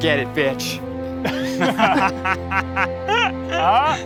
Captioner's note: laughing